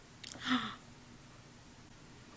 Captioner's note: gasp